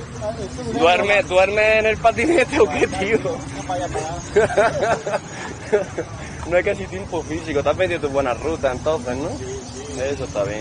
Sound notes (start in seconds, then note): 3.4 laughs